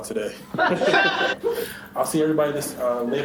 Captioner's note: forced laughter